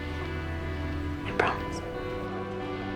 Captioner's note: voiceover